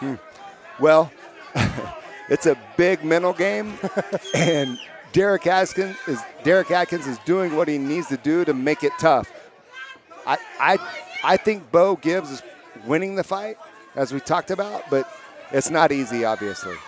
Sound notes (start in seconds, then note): 3.6 chuckles; 3.6 laughs